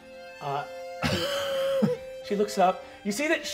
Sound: laughing

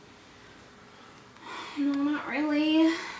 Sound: sighs

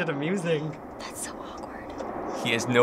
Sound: whispering

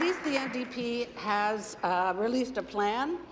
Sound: applause

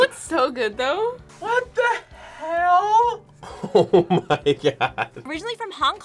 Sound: laughs

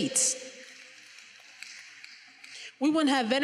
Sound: finger snapping

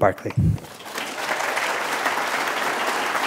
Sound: applause

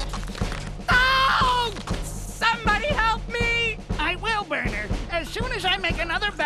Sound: screams

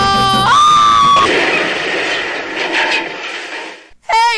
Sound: c r a s h

